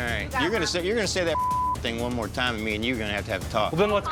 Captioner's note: beep